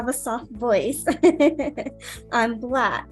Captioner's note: laughs